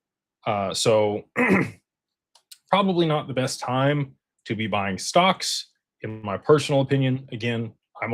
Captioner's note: clears throat